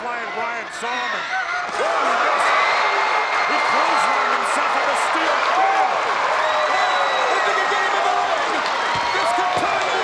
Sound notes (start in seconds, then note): 1.9 crowd cheering